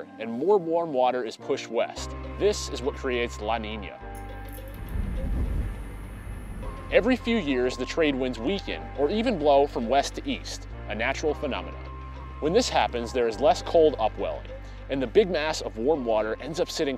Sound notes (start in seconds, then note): 4.5 wind blowing